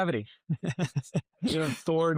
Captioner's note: chuckles